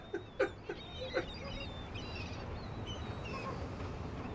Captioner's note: gulls crying